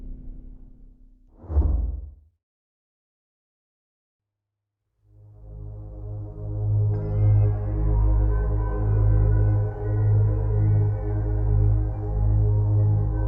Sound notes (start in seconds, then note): 1.3 logo whooshes; 5.3 tense mysterious music